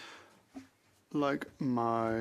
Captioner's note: speaking French